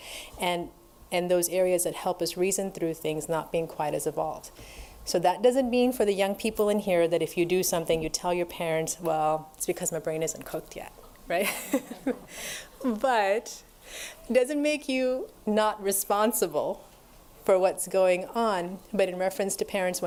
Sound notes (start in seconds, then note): 11.4 laughter